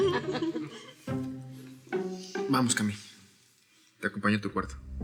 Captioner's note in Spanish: Risas